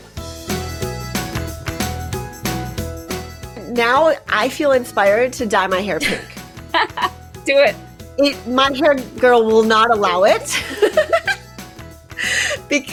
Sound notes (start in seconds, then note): 0.2 upbeat music; 6.7 laughs; 10.4 both laughing